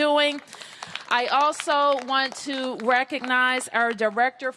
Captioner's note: applause